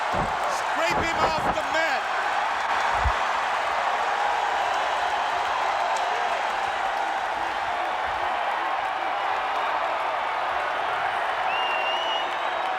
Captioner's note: crowd cheering